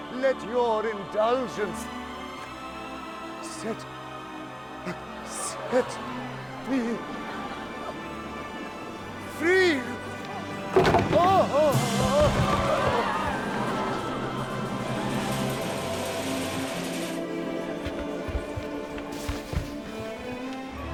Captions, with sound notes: let your indulgence Set-- Set me-- Free! (Brandon gasping) (crowd gasping) (dramatic instrumental music)